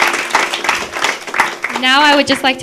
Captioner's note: applause